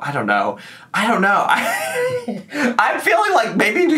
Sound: laughs

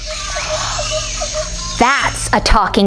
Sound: birds chirping

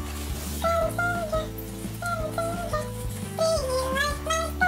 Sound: silly voice effect, singing

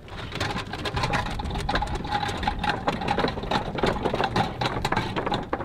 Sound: cart clanging on the jetty

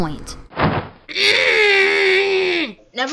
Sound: hhnnngg

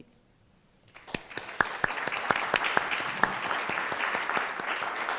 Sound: audience applauding

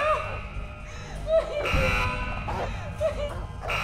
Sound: crying

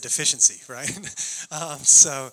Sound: chuckling

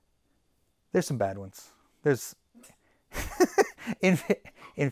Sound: laughs

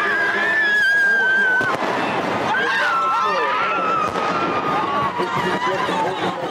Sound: screaming

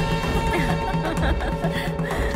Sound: laughs

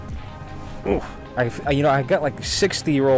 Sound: grunts

